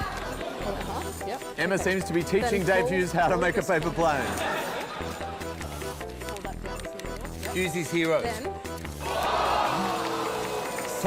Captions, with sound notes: Yep. Emma seems to be teaching Dave Hughes how to make a paper plane. Fold that there... Hughesy's Heroes. ..then... [AUDIENCE EXCLAIMS]